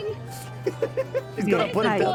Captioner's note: laughing